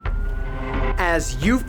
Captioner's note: sirens ring